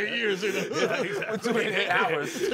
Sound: laughter

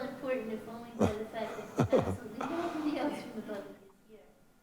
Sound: woman speaks in a low tone

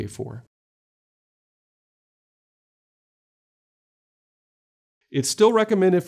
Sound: silence

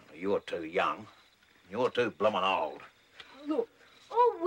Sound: none

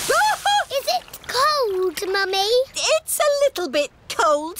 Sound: shrieks

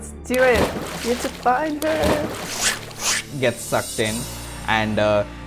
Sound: fwip! fwip!

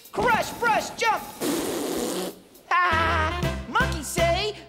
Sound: raspberry Sound

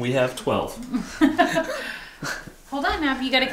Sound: laughing

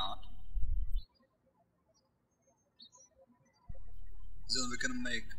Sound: birds chirping

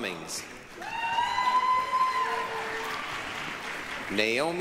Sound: applause, cheering

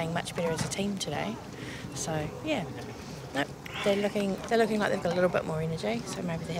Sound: none

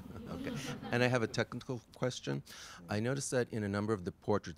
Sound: voiceover

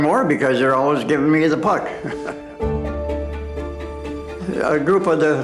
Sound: laughing

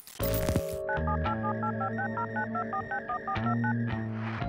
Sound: static; dial up modem sound

